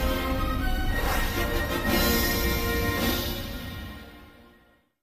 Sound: whooshing as 32-bit FOX fanfare ends early

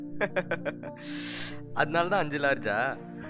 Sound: laugher

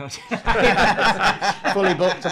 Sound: all laughing

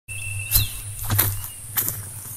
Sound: footsteps

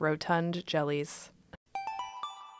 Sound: chime

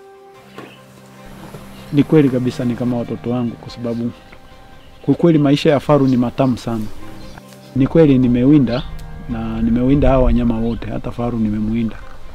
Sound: non-english speech

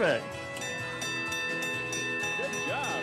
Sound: bell clanging

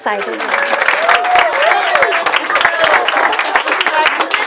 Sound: applause and cheering

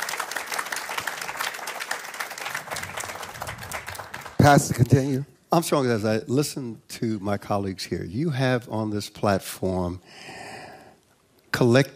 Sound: applause

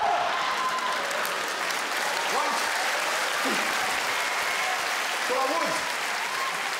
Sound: crowd laughter and clapping

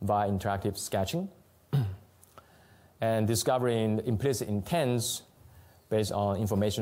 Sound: clears throat

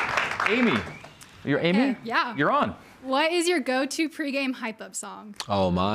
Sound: crowd cheers

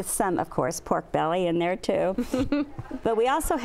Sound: laughs

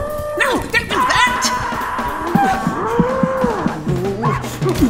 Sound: yelling

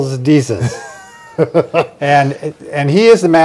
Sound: laughing

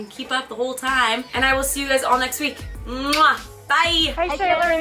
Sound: kissing

